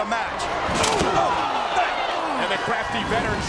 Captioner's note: commentators exclaim